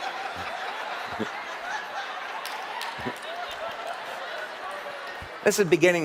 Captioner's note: เสียงปรบมือ